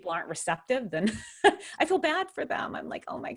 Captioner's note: chuckles